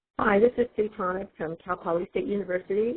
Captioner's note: voiceover